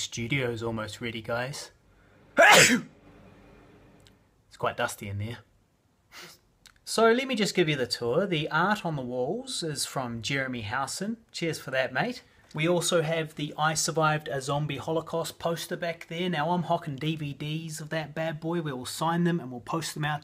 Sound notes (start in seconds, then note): 2.4 sneezes violently